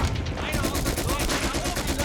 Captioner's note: speaking German